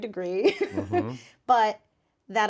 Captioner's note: Nikki laughs